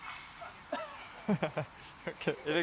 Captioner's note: laughter